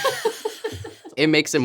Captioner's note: laughing